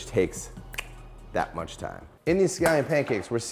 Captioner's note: snaps fingers